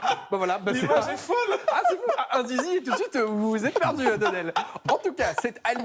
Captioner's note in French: rires